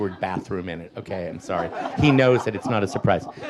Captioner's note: audience laughs